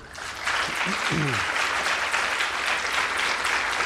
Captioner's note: audience applauding